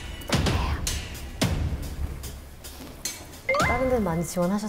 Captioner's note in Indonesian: Jantung berdebar